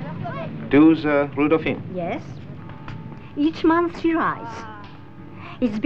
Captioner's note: foreign language audio